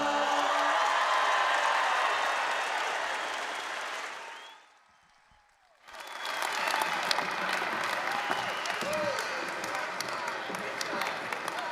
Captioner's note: applause, cheering